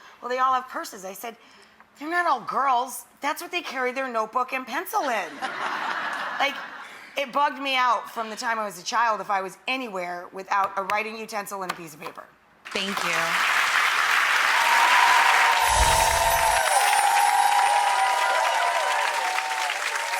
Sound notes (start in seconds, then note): 5.5 audience laughing; 13.1 audience cheering